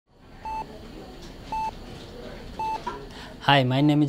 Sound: heart monitor beeping

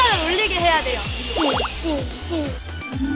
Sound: heart beating

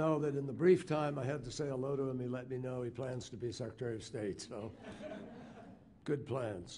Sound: laughter

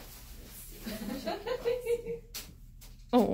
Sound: laughing

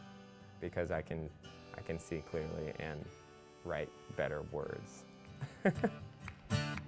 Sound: laughs

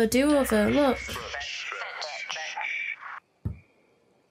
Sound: radio

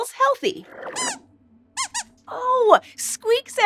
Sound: squeaks squeaks

